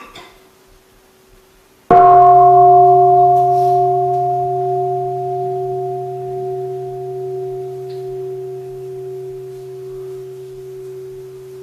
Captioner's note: gong